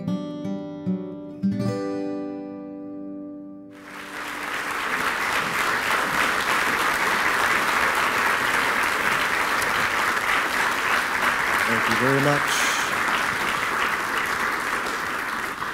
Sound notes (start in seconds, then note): 3.7 applause